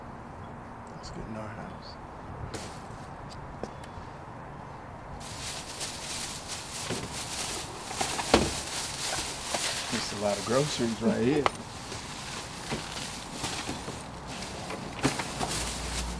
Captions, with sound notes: - Lets get into our house. - That's a lot of groceries, right here. (Renee laughs)